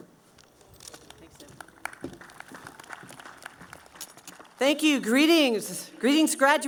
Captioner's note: clapping